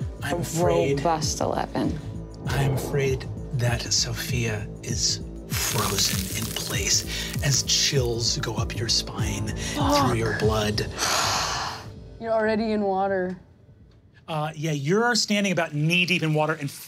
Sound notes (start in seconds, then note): 9.7 sighs